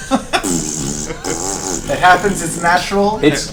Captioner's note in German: Gelächter; Furzgeräusch